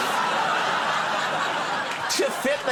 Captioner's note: audience laughing